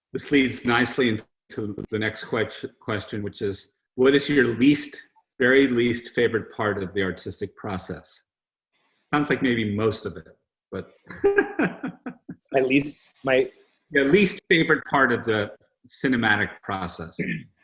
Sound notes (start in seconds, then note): 11.1 laughs